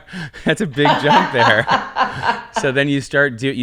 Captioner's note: laughing